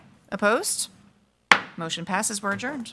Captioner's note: gavel thudding